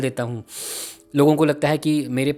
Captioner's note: breathes in